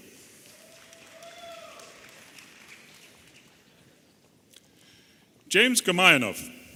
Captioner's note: audience applauding and cheering